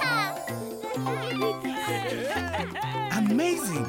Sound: laughter and joyful exclamations

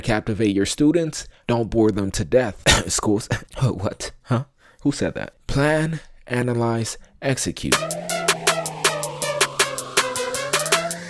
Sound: cough

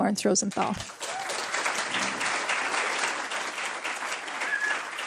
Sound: applause

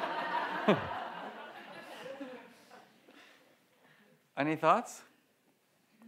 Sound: audience laughs; laughs

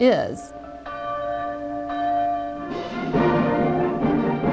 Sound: church bells ringing; upbeat music

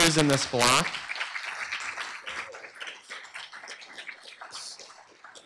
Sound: applause

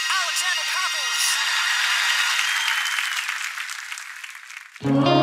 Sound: audience applauds

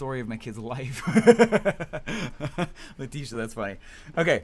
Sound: laughs

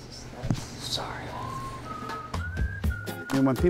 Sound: whispers

